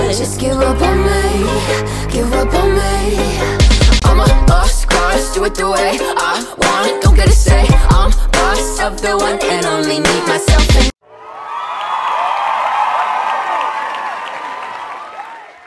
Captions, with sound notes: * Just give up on me * Give up on me * I'M A LOST CAUSE * DO IT THE WAY I WANT * Don't get a say, I'M boss * Of the one and only, me myself and- *applause*